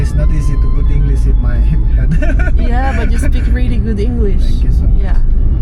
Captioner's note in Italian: risate